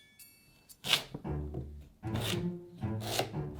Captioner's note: knife cutting